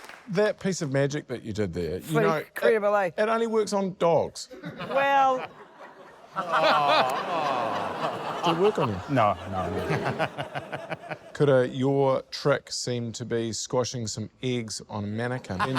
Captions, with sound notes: - That piece of magic that you did there ― - Pretty incredible, eh? - it only works on dogs. (LAUGHTER) - Well... (LAUGHTER) (AUDIENCE 'AW'S) - Did it work on you? - No. No. - Kura, your trick seem to be squashing some eggs on a mannequin,